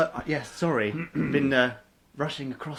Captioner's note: clears throat